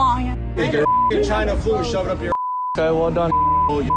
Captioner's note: beep; repeated beeping